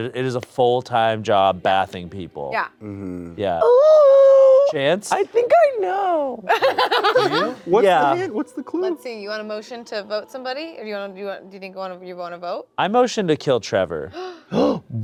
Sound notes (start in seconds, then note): 6.4 laughing